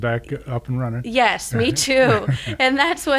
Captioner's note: laughing